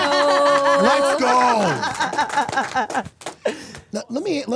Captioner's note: group applauding